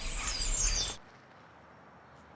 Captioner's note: birds chirping stop